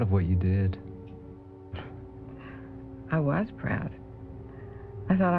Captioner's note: chuckles